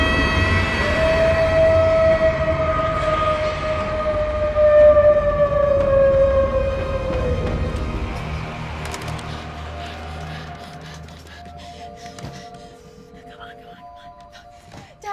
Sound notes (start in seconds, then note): 0.9 wolf howling